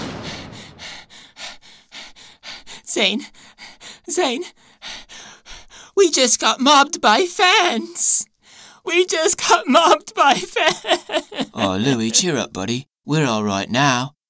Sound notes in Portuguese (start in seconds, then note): 0.6 Ofegante; 8.8 Sobbing